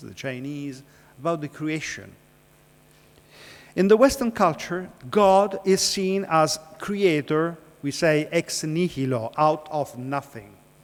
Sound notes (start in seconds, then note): 8.1 speaking foreign language